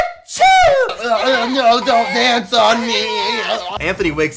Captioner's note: groans